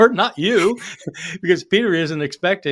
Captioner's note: chuckling